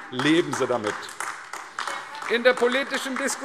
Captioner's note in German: Beifall AfD